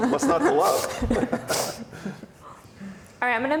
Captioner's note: laughs